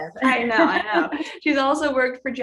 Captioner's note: giggling